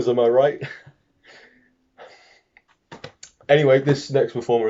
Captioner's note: awkward silence